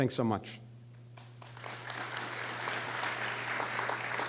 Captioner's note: applause